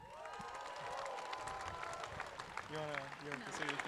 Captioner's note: audience claps